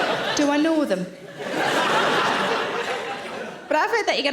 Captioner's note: audience laughs